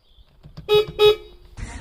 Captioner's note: beep beep